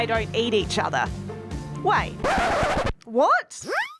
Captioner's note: vinyl record scratching